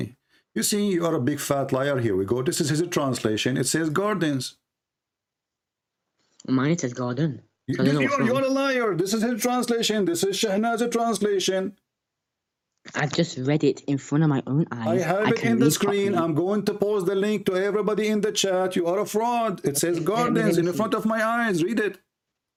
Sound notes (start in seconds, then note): 8.1 Ketawa